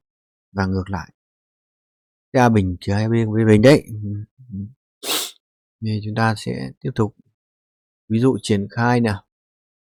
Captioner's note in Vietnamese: khịt mũi